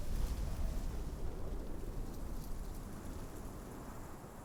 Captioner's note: wind breezing